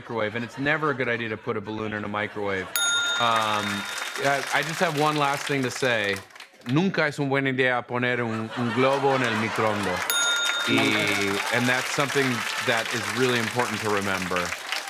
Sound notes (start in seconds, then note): 2.5 laughter and applause; 2.7 ding!; 10.0 laughter and applause; 10.1 ding!